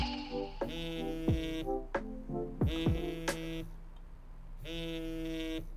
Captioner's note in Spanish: teléfono vibrando